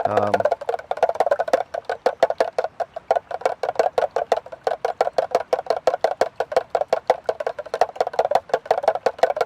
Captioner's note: spoon clattering